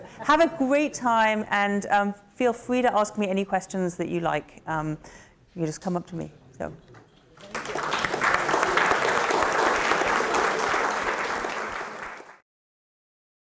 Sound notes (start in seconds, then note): 7.4 clapping